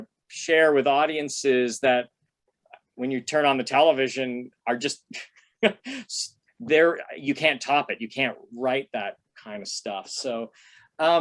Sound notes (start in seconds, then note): 5.6 laughter